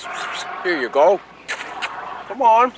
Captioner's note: kissing noises; kissing noises